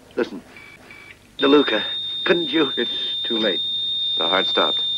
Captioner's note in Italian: segnale acustico fisso